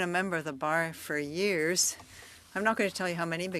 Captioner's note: speaking French